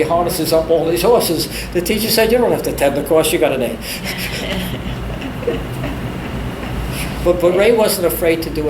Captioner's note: all laugh